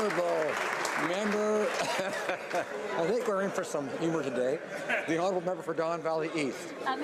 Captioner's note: applause